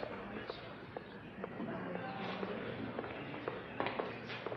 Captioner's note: footsteps